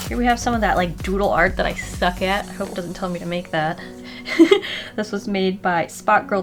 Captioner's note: giggle